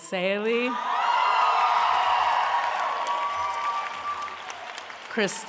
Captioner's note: applause